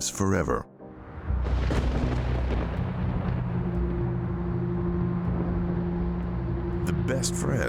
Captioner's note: tense music; thunder booming